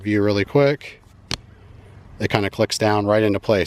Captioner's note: magnets clinking